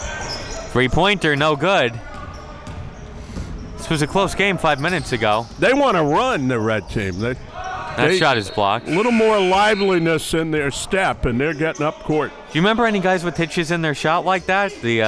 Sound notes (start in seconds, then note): 8.8 whistle blows; 8.8 buzzer dings